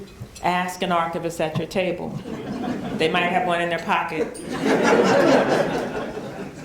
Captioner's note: laughter